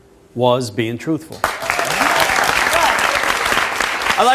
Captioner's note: audience applauds